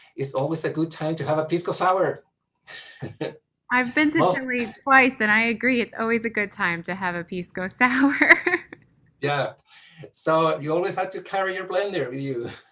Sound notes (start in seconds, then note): 8.0 laughs